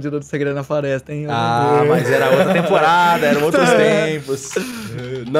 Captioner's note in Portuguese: risada